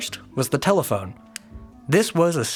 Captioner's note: light clicks